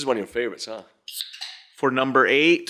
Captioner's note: can tab clicks